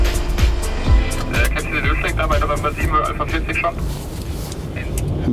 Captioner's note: radio message